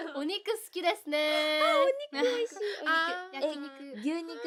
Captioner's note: gasp